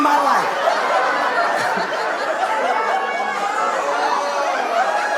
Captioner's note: audience laughing